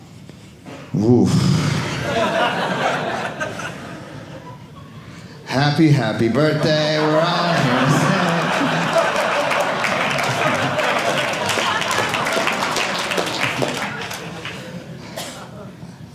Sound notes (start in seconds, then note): 1.0 sigh; 1.6 audience laughing; 8.4 audience applauding